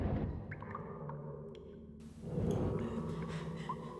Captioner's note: water dripping